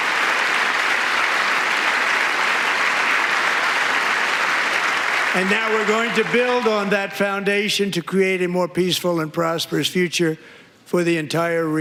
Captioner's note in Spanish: aplausos